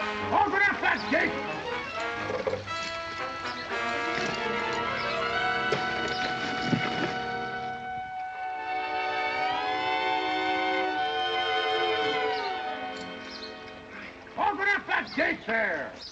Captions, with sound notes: Open up that gate! [ THUD ] [ JOKE WORRYING MUSIC ] Open up that gate!